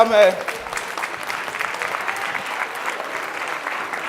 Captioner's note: audience clapping